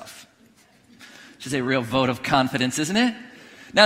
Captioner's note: none